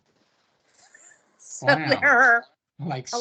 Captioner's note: laughing